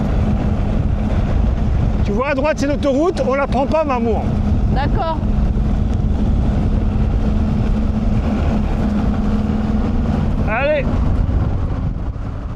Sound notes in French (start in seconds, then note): none